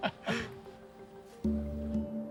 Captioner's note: chuckling